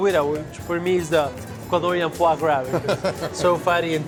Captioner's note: laughs